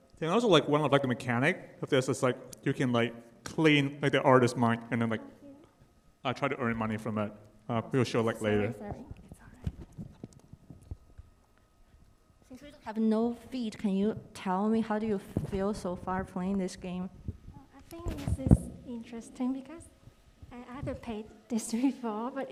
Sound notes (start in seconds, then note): none